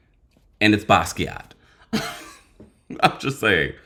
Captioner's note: laughs